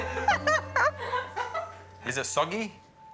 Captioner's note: laughter